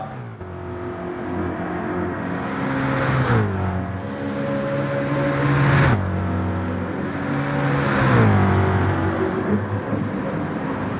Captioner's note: engines revving, cars noises